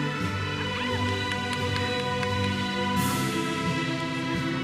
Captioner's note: audience cheers and applauds